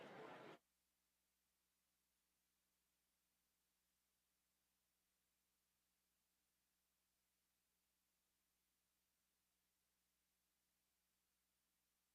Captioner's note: silence